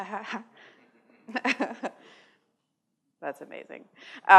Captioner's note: laughter